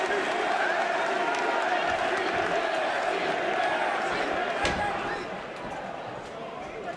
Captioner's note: crowd cheering